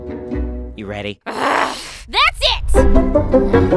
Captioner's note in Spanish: gruñe